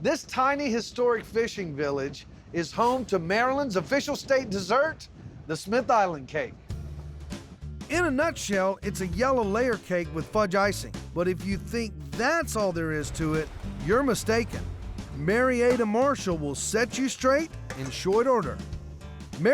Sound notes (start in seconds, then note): none